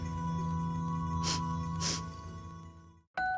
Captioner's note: sniffs